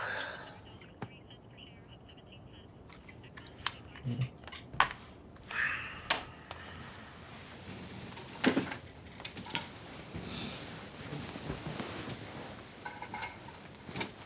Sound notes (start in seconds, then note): 4.3 TV clicks off; 5.4 sighs